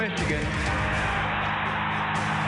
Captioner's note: cheers and applause